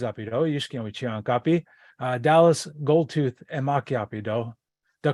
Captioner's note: native language spoken